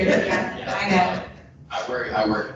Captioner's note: people laughing